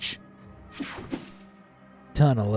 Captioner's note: transition slashes